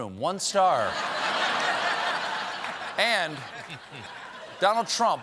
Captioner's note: laughter